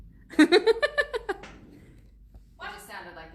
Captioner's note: laughs